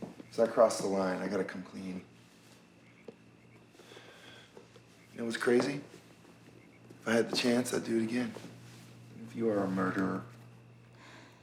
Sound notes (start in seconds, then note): 3.6 sighs